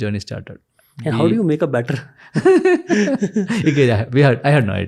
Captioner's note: chuckles